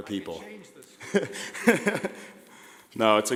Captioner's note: laughing